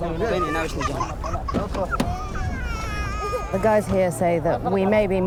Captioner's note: baby crying